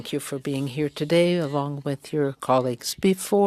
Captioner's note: speaking french